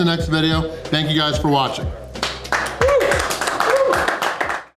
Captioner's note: crowd clapping